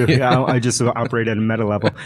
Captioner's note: laughing